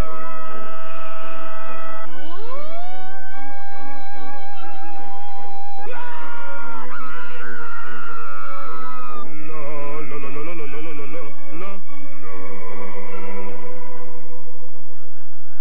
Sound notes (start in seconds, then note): 2.3 people continue to scream, yell, and sing at the glass in varying pitches